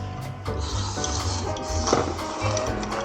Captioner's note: slurp slurp